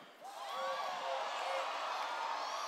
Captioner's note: cheers